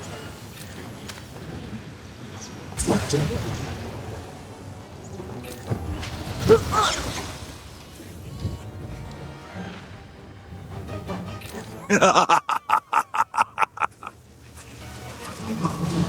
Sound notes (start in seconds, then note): 4.0 laughter